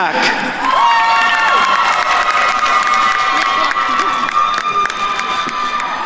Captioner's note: attendees cheering and applauding